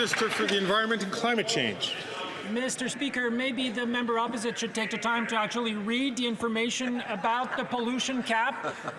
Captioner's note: some Applause